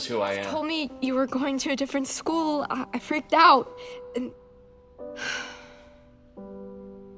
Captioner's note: sighs